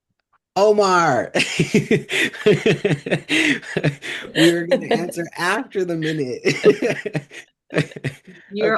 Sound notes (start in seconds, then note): 1.4 laughter